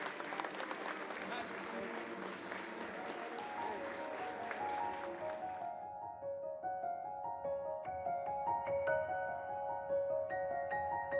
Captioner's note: applause